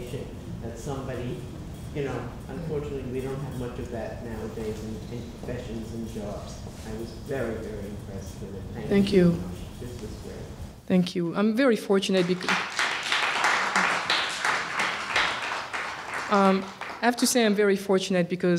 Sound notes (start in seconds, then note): 12.2 applause